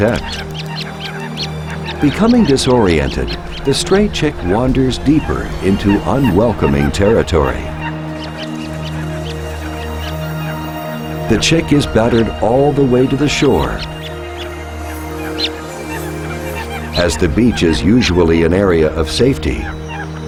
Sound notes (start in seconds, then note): 0.2 birds squawking, chirping; 7.4 chirping